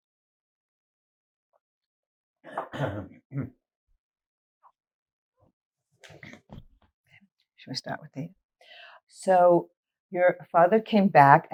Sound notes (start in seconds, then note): 2.5 clears throat